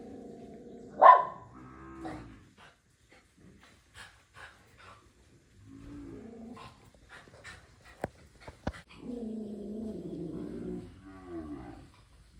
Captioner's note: dog barking, cattle mooing